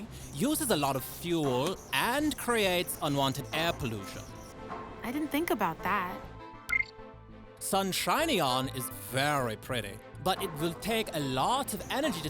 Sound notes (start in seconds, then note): 6.7 computer beeps